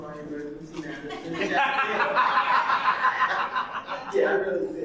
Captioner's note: audience laughing